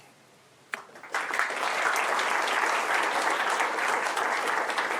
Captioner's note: applause